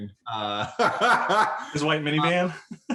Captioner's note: laughs